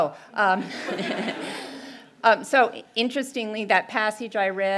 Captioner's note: laugh